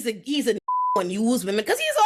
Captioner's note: beep